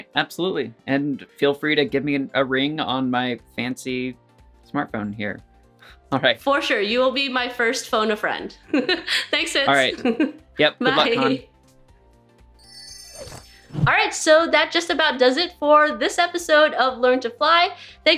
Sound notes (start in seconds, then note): 9.6 laughs; 12.6 jingling sound